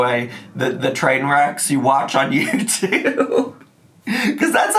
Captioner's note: laughing